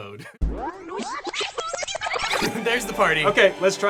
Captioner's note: tape rewinding